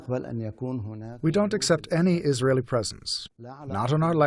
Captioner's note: through translator